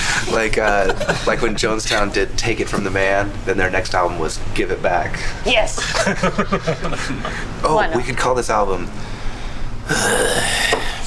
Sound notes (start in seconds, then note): 5.8 chuckles; 9.8 sighs